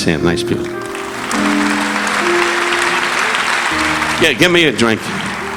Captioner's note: relaxing piano music; audience applauding